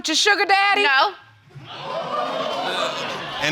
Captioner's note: audience gasping